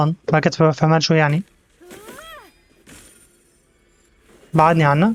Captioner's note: grunts; yelps